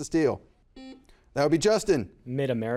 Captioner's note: buzzer buzzes